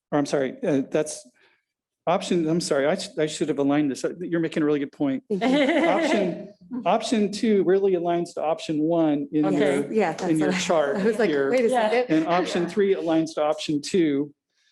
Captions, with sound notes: I'm sorry, that's options, I'm sorry, I should have aligned this, you're making a really good point. (laughing) Option two really aligns to option one in your chart and option three aligns to option two,